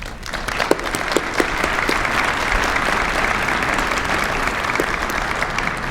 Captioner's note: applause